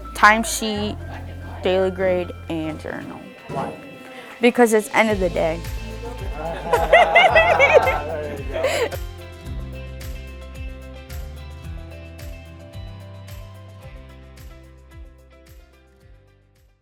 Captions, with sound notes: Timesheet daily grade and journal Why? Because it's end of the day. (Laughing) (Light music)